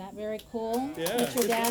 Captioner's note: applause